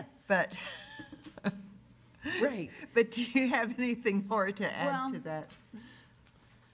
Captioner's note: laughs